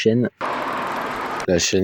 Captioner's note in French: son du désespoir